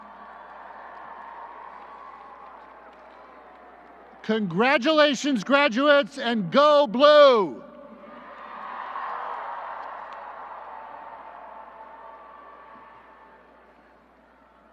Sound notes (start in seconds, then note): 0.0 applause; 8.0 applause; 12.0 applause and cheering